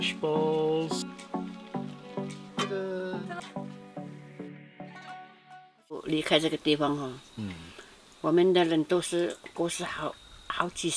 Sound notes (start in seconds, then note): 6.0 speaking Mandarin